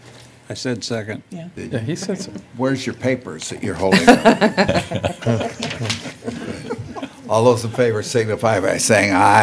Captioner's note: laughter